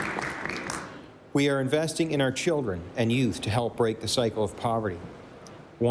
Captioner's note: applause